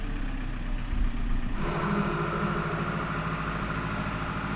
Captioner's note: engine revving